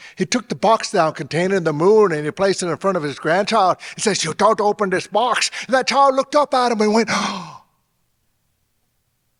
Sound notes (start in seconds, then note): 7.1 gasping